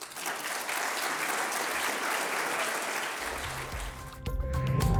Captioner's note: audience applauding; upbeat music